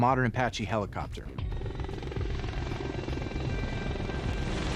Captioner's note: helicopter whirring